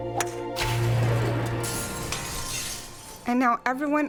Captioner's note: glass shattering